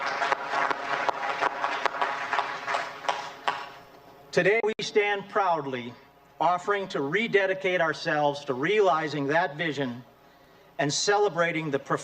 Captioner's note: applause